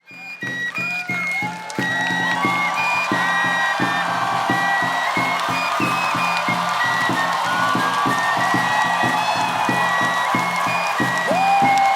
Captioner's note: cheers and applause